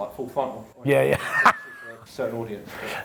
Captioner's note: laughs